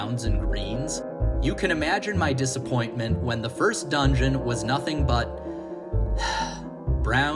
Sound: sigh

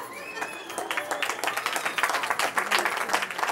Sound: cheering

